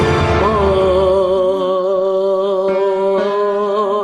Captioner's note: Nada rendah Hums